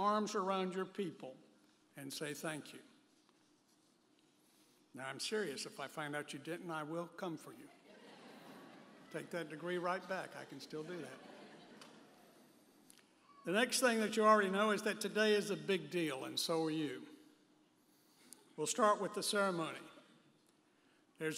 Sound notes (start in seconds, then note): 7.8 audience laughing